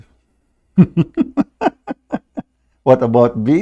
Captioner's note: Ketawa